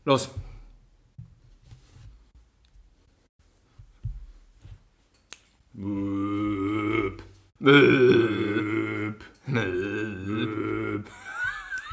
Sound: some kinda burping noise

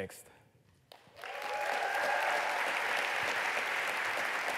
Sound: applause

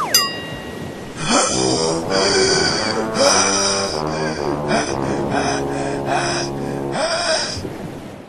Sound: panting

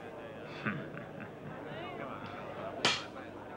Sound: man chuckles

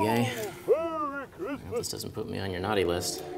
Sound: voiceover

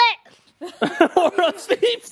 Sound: laughing

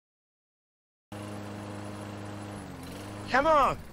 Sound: lawnmower trouble starting

